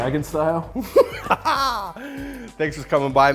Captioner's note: laughing